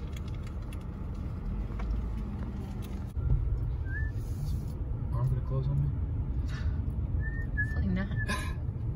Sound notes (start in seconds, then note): 3.7 whistling and driving past security gates